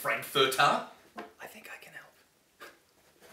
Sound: whispers

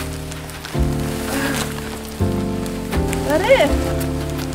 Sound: more struggling noises

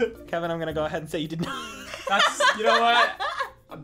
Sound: laughs

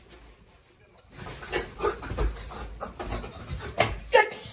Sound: more choking

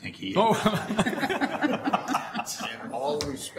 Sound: everyone laughing

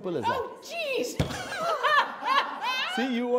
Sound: laughs

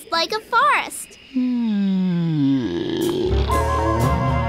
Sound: yawning

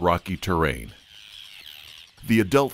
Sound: birds chirping

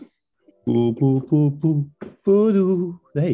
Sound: hums tune

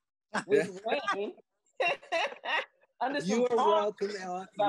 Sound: laugh

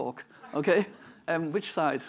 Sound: chuckling

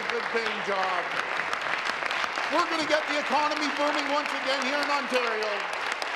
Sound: applause

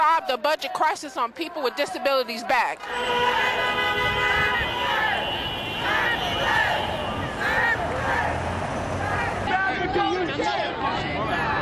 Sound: chanting

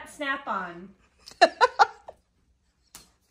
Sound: laughs

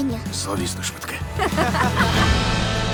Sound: laughter

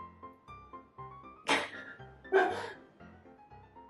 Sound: giggle

